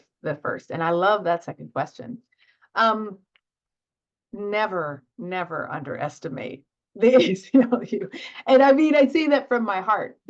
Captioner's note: laughter